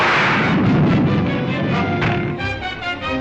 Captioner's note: fire roars